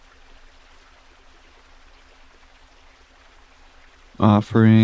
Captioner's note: water gushing